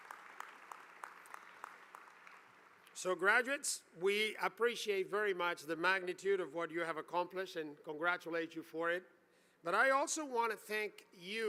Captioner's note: applause